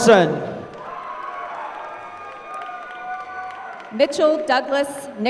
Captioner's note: applause